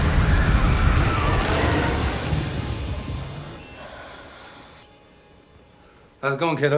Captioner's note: people screaming; dramatic music